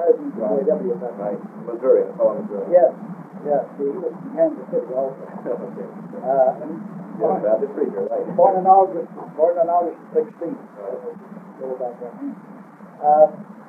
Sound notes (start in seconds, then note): 5.1 laughs